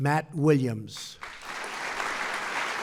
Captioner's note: applause